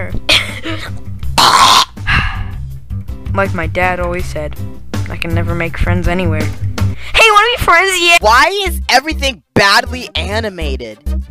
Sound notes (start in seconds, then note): 1.3 Mialex Cough; 2.0 sigh